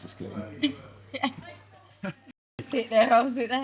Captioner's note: laughs